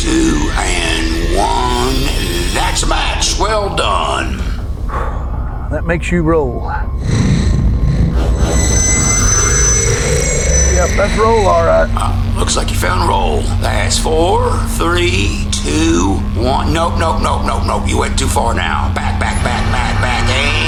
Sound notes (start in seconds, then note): 4.1 sighs; 7.4 static buzzing